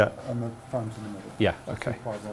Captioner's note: faintly speaking